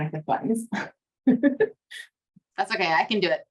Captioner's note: laughs